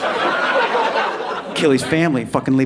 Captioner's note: audience laughing